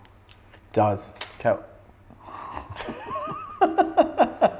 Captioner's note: laughing